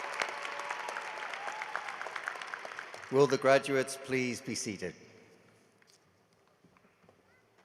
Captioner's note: cheering and applause